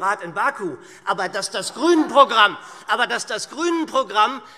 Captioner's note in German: Heiterkeit SPD - Widerspruch CDU